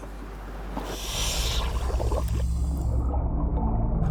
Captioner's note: sound of diver's oxygen tank; water bubbling